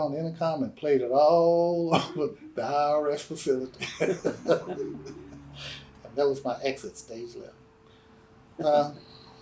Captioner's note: laughter